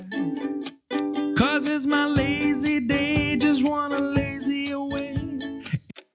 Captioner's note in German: Uhr tickt